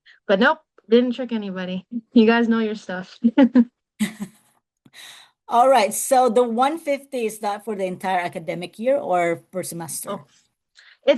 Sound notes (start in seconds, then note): 4.0 laughs